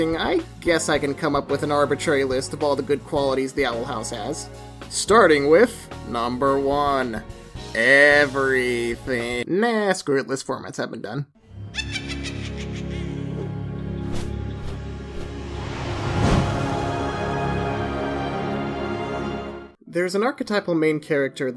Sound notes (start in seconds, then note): 11.7 cackling; 13.6 suspenseful music